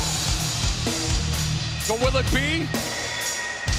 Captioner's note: crowd cheering